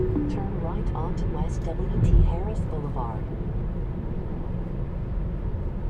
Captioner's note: navigation Speaking